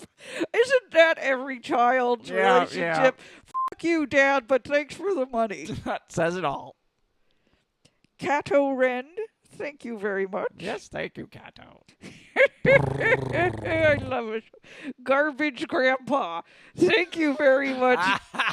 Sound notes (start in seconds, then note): 12.7 Luke makes purring sounds